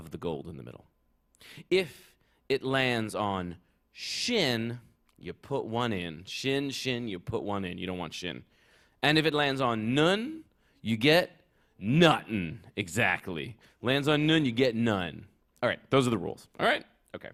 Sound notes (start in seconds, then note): none